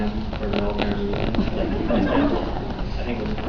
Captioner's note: laughs